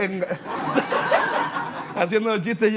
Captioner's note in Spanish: Risas